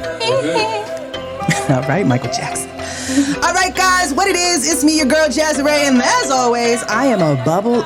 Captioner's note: he He